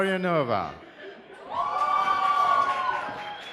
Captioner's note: cheers